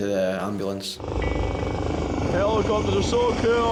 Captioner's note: helicopter blades whirring